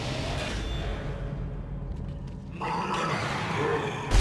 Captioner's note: grunting